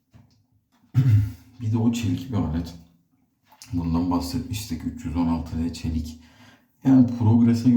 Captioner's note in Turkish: boğazını temizler